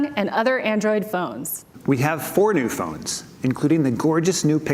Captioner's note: none